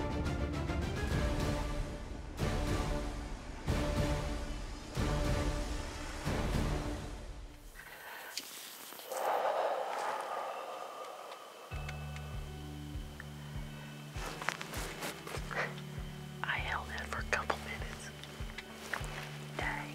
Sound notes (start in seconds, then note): 0.0 dramatic suspenseful music continues; 9.0 exhales sharply; 12.0 gentle calm music